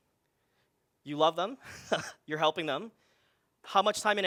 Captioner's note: laughs